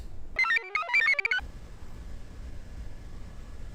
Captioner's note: computer chirps